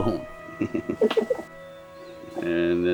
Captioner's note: both giggling